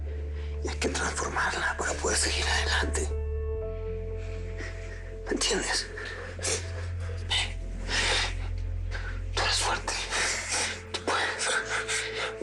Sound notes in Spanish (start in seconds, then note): 5.8 Sollozos